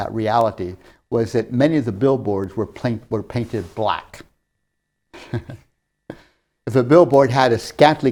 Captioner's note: laughs